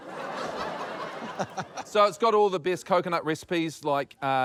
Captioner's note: chuckles